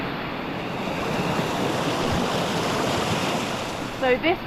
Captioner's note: water rushing